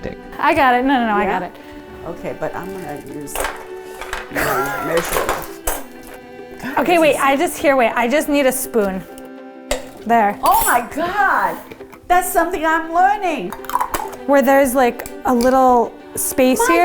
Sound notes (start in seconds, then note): 9.7 lid pops